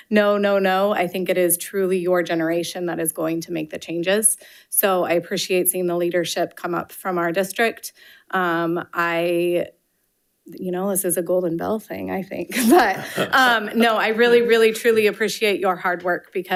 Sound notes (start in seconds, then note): 12.5 participants laughing